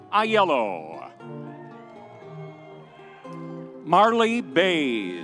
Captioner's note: audience cheering